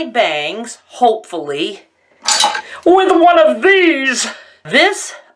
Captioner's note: knives clattering